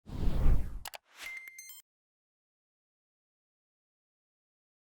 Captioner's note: electronic beeping